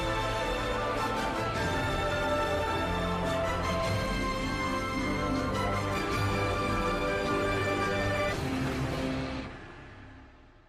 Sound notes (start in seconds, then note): none